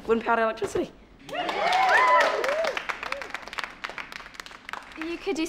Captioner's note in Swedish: klappar och jublar